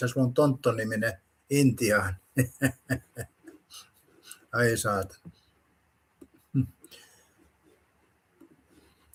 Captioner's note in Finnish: naurua